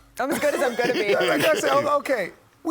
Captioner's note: laughter